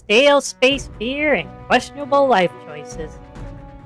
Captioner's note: sarcastically